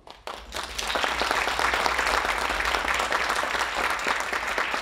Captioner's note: audience applauding